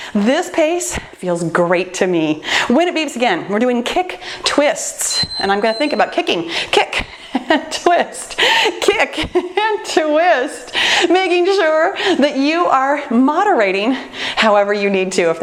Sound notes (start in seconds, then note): 5.0 timer beeping; 7.4 laughs